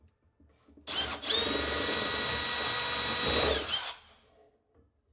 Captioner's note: tool whirring